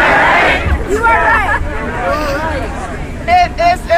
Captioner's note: somebody in the crowd yells